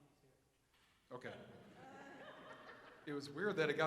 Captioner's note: audience laughs